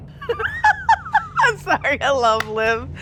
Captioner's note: chuckling